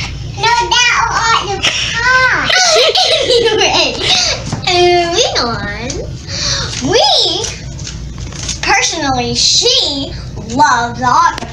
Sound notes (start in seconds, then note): 2.4 chuckling